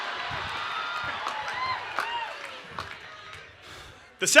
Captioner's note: applause